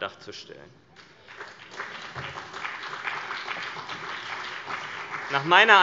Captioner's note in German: Beifall CDU und BÜNDNIS 90/DIE GRÜNEN